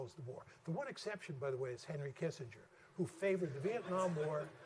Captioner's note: laughter